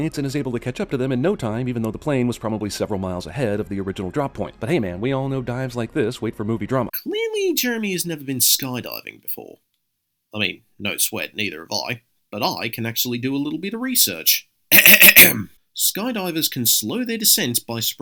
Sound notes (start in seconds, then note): 14.7 ahem